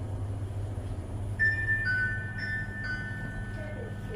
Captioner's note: ding-dong, ding-dong